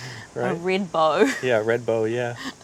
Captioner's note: laughs